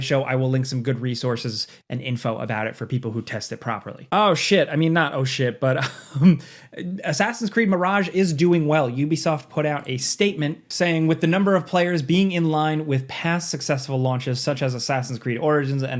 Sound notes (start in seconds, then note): 5.7 chuckles